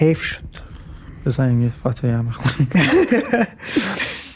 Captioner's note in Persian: خنده